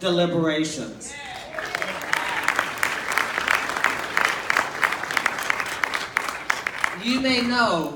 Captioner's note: clapping